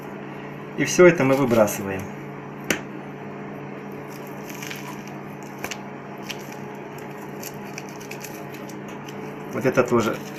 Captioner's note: the noise of a working oven